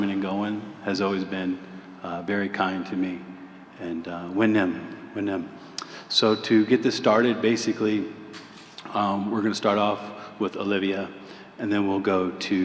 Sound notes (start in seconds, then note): 4.4 non-english